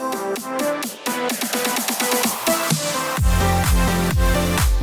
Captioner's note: clap